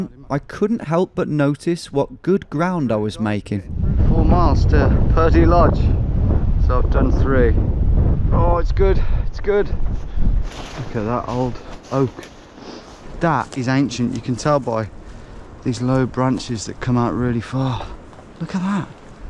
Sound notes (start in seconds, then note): none